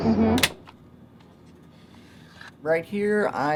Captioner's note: cassette recorder opening